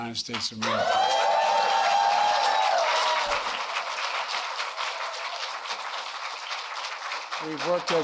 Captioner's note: applause